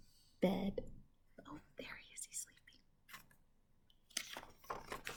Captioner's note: whispers